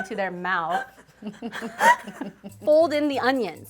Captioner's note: friends laugh